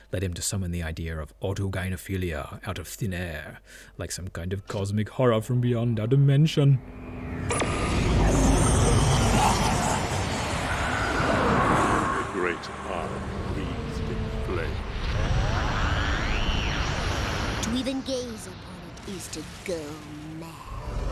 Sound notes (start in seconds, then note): 7.1 eldritch sound effects; 7.1 psshew-whoosh noise